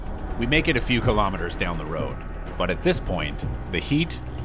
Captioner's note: none